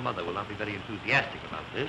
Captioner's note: buzzing